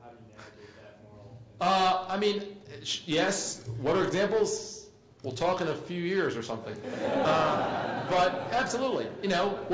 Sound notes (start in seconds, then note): 6.8 laugh